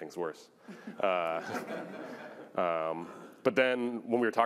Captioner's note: laughter